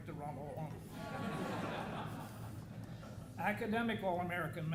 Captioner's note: audience laughing